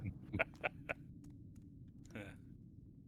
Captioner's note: laughter